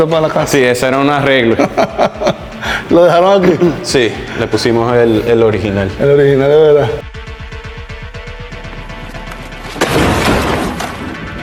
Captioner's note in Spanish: risas